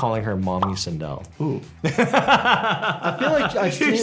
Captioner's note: laughs